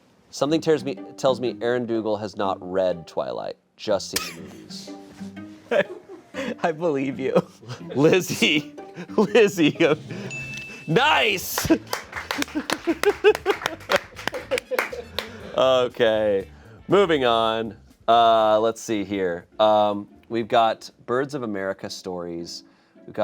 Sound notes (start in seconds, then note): 9.8 drum roll hisses; 10.2 bell chimes; 11.1 crew applauds